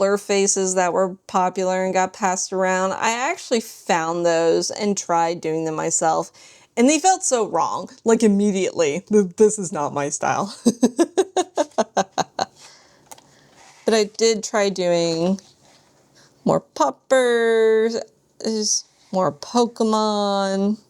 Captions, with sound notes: faces that were popular and got passed around? I actually found those and tried doing them myself and they felt so wrong like immediately this is not my style [laughs] But I did try doing more puppers, more pokemon.